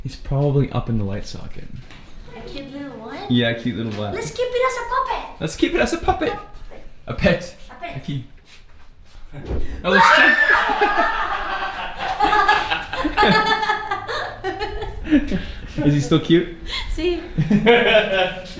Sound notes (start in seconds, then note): 9.8 scream; 9.9 laughing